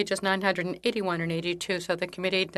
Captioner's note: speaking in French